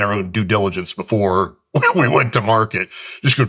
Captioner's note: chuckles